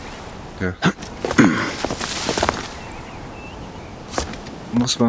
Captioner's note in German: husten; räuspern